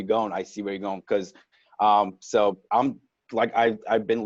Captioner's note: stuttering